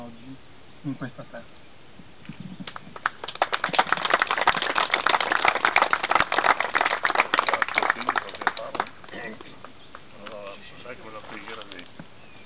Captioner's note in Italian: Applauso